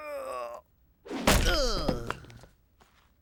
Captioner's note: karate yell; groans